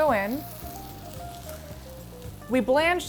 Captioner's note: pan sizzling